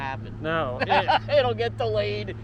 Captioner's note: laughing